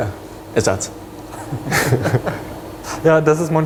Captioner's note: laughs